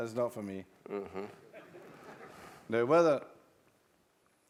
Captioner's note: laugh